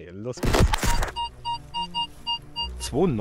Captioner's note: squeaks